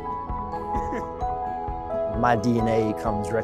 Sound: laughs

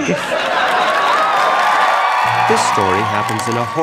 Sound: audience cheering

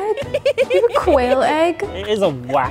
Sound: giggles

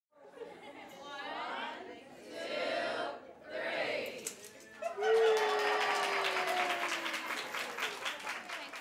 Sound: laughter and applause

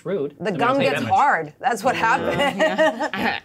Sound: laughs

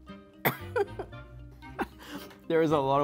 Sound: choking

